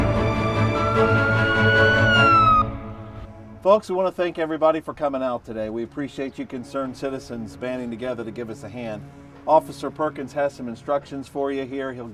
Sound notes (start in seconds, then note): 0.0 sirens blaring